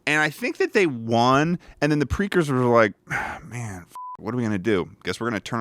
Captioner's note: beep